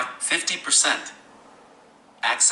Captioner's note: VoiceOver speaks at slower rate